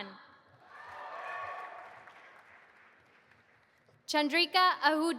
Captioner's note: audience applauding